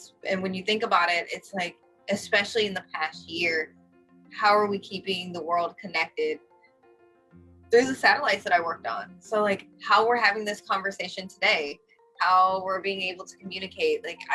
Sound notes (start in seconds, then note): none